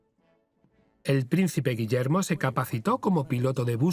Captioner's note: voiceover